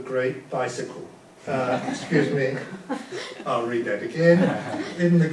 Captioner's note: audience laughs